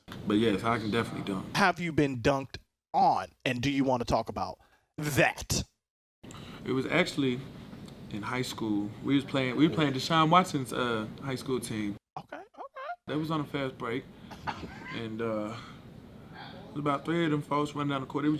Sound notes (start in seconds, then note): 14.4 laughing